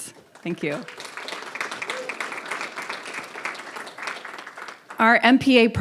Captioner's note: audience applauding